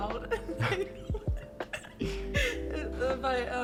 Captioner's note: derailing into laughter